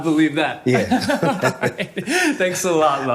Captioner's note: laughing